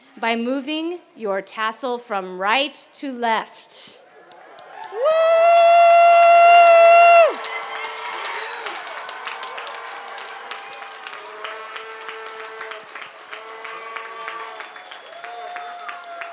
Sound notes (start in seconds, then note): 4.2 applause and cheers